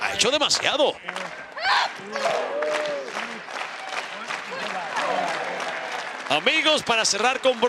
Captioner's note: applause